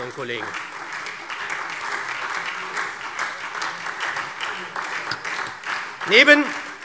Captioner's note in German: Beifall SPD, vereinzelt Freie Demokraten, DIE LINKE und AfD